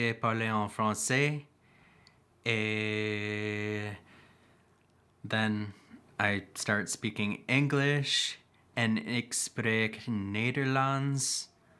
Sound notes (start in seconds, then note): 2.6 speaking in French